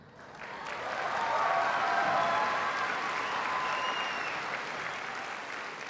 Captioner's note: applause